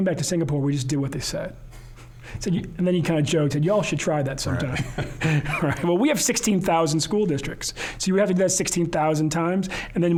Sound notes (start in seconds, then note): 4.5 both laughing